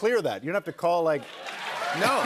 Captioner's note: cheers and applause